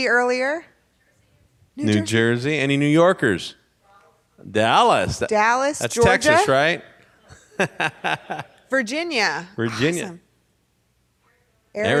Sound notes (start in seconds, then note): 7.3 laughs